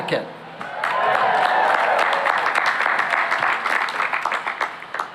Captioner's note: cheering and applause